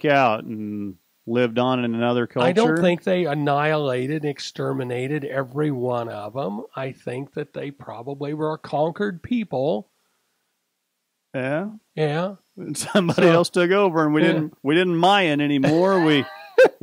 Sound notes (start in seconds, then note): 12.7 chuckles